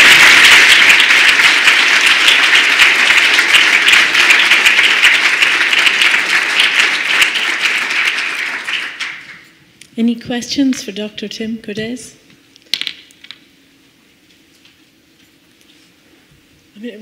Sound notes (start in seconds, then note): 5.0 applause